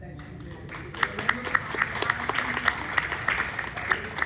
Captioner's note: clapping